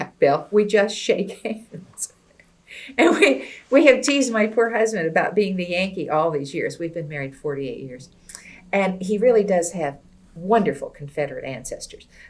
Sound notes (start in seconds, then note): 2.8 laughs